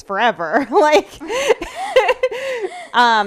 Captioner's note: laughing